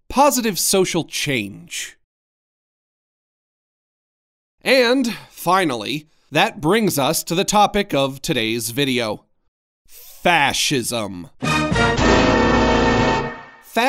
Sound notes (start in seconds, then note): 3.1 emphatic silence; 11.8 ominous tones